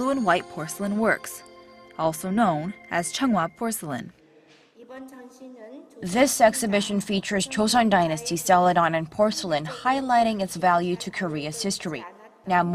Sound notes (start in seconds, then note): 4.8 korean